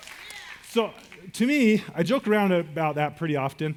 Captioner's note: audience cheers